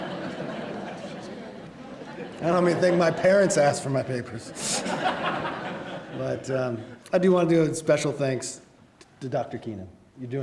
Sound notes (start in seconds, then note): 0.0 laughs